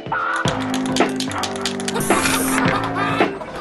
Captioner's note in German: peppige Musik; Sprühdose klappert; Leute lachen